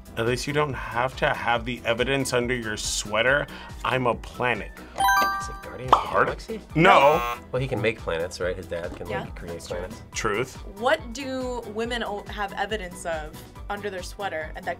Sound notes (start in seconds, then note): 6.9 buzzer; 6.9 buzzer rings